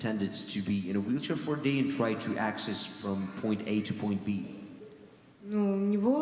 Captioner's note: speaking in foreign language